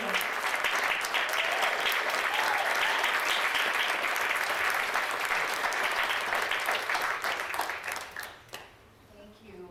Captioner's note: audience applauding